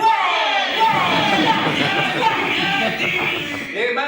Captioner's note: cheers and applause